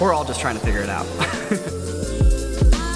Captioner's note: laughs